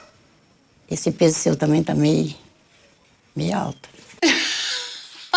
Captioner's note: laughs